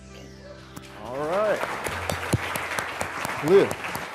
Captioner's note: crowd clapping